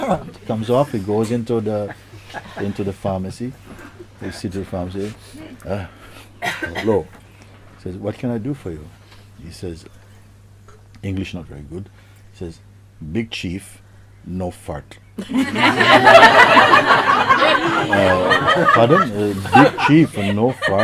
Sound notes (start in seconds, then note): 15.2 laughter